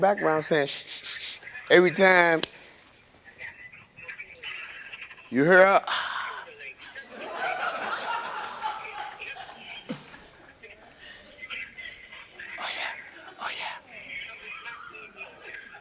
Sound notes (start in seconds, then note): 6.5 moans; 6.8 audience laughs